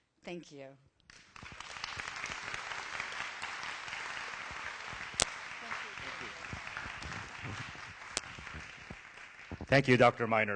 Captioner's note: applause